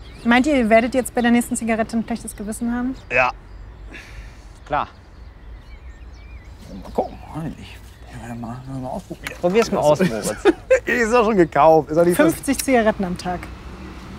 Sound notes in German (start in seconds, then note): 9.0 lacht